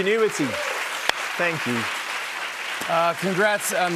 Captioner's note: cheers and applause